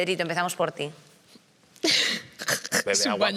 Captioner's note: she laughs